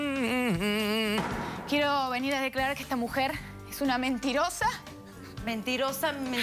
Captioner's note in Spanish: Tararea